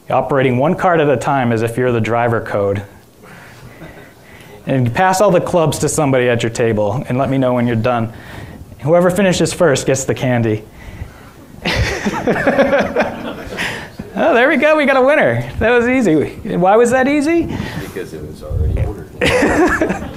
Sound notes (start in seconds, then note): 11.5 all laughing